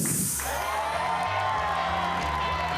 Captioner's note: audience cheering; upbeat music